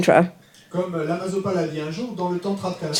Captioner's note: audience member speaks in French